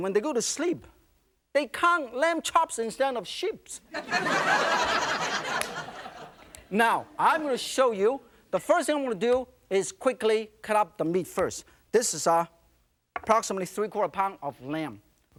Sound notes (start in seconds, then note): 3.9 laughter